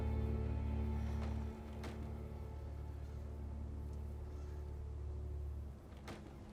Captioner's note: sighs; muffled thuds and creaks